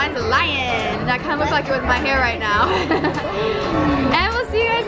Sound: laughs

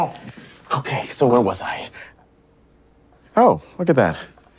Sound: gasps

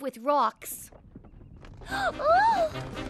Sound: rumble approaching

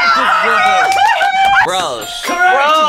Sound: both cheering

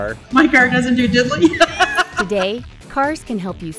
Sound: laughter

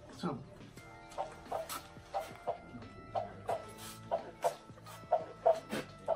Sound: heartbeat

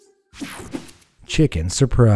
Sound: image whooshing

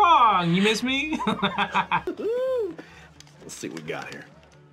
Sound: laughs

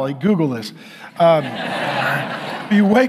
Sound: congregation laughing

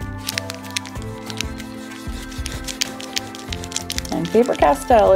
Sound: eraser rubbing

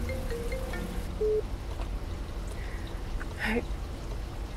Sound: phone ringing; phone beeps

